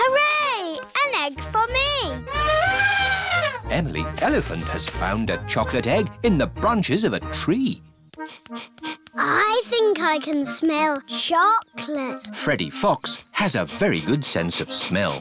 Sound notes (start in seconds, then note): 2.2 trumpets; 8.1 sniffs; 14.6 sniffs